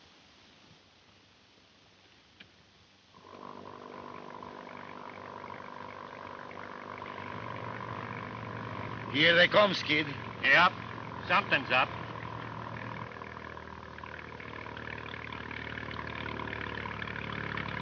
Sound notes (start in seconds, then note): 3.5 speedboat engine roaring; 12.5 speedboat engine roaring